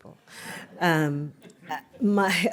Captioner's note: laughter